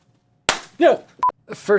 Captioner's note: pop